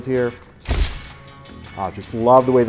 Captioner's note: shutter clicks